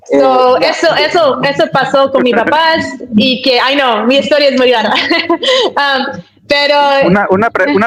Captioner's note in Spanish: risas